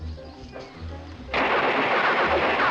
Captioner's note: gunfire